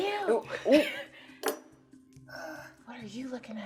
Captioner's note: laughing